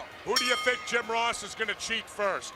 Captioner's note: bell ringing